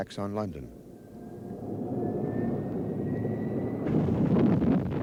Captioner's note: rocket whistles; rocket whirs; rocket rumbles